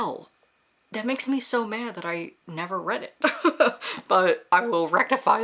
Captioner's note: laughs